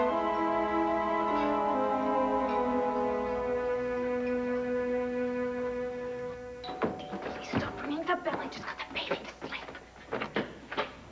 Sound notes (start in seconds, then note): 6.6 doorbell rings